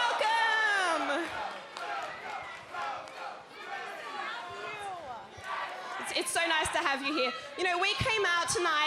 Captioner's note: fans chanting